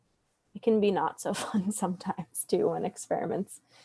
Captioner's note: laughs